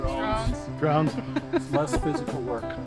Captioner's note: laughs